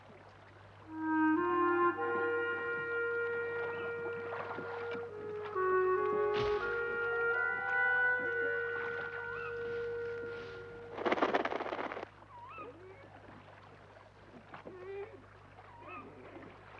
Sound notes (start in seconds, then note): 0.5 wind whistles; 8.2 bird calls; 8.7 owl coos; 11.2 wings rustle